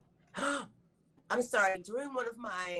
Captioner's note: gasps